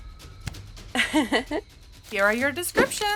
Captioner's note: laughs